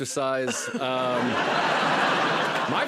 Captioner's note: laughter